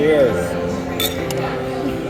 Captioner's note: clink